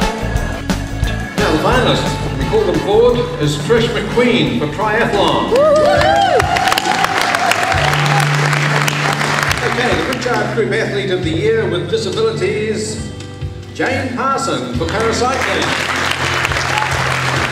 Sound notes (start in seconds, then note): 5.2 cheering and clapping; 14.8 cheering and clapping